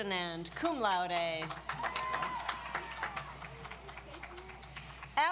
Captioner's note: audience applauds